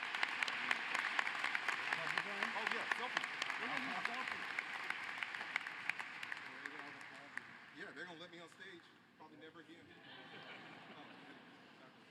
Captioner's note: applause